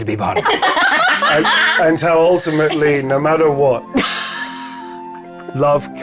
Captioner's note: players laughing; chuckling